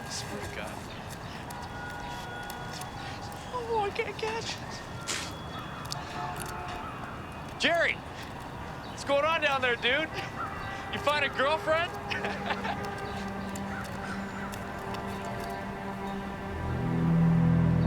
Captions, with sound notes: I swear to god, man. Oh, I can't catch. (boy scoffs) Jerry, what's going on down there, dude? You find a girlfriend? (boys laughing) (tense music)